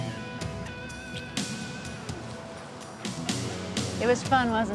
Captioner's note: lips smacking